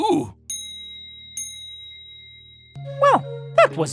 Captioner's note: dinging